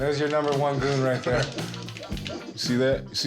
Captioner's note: laughs